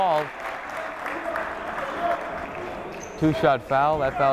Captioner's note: clapping